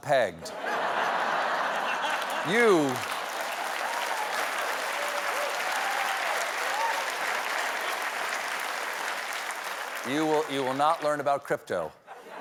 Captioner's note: laughter; applause